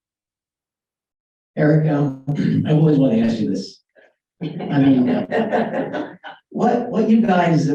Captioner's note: laughter